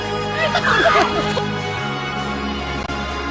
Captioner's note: laughter